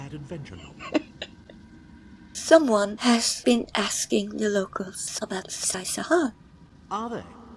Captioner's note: chuckles